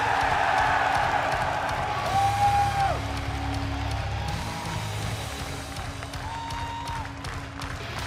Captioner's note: cheers & applause; clapping